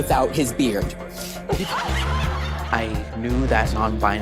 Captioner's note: laughter